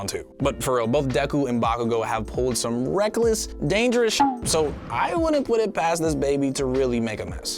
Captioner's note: boop SFX; explosion SFX